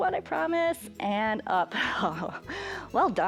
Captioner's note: laughs